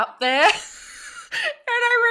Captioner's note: both laughs